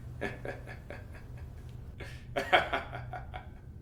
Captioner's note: laughs maniacally